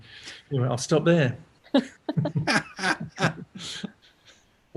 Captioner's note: laughter